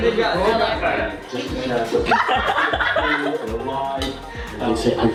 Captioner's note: chatter, laughter